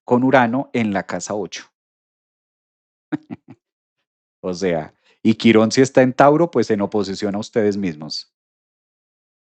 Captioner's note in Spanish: risas